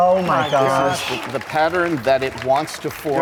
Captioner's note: audience claps